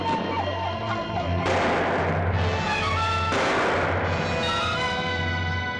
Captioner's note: suspenseful music; gun fires; suspenseful music